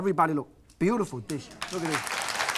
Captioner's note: crowd applauds